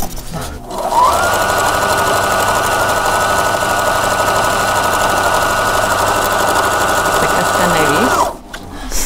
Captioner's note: loom making noise